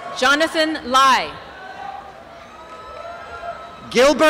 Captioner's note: cheering and applause